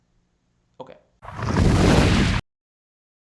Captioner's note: thunder